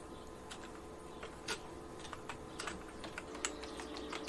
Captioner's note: keyboard clacking